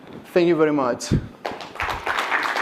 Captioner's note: applause